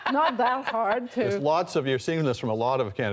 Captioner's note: laughter